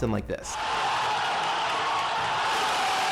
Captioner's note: cheering